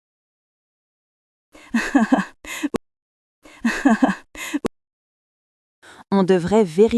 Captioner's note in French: rire